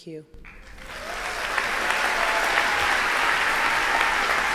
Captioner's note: applause